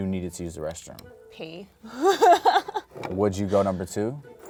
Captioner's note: laughs